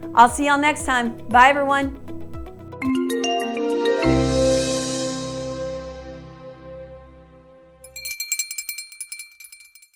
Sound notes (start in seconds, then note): 2.8 upbeat music; 7.8 bell ringing